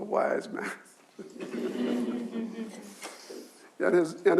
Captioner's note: audience chuckles